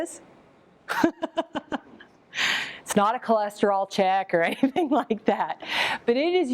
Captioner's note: laughs